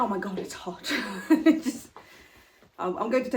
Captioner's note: chuckling